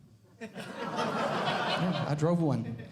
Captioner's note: audience Laughing